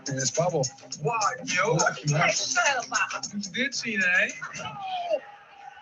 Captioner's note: speaking other languages